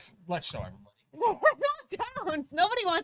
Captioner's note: laughs